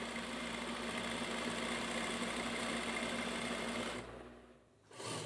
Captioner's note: noise of sewing machine in the background